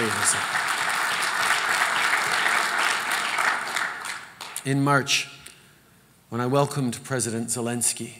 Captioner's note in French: Applaudissements